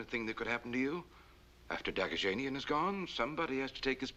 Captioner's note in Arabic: يتمتم